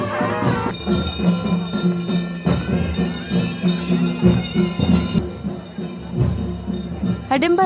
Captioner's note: bells chimes; reed pipe sound; soft drumming